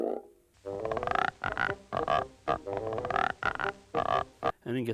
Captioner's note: croaking; croaking musically